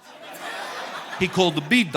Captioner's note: audience laughing